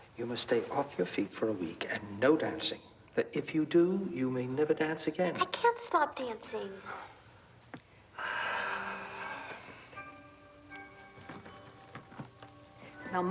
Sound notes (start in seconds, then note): 8.1 Lasky sighs; 9.8 eerie orchestral music